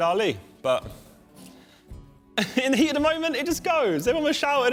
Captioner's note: laughs